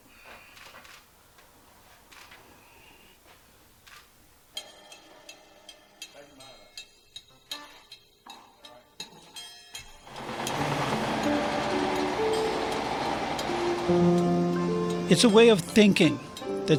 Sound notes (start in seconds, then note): 5.6 dramatic music; 5.6 tools buzzing